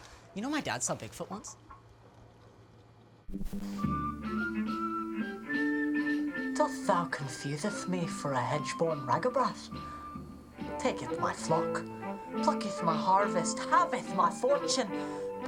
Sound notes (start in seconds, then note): 3.3 static buzzing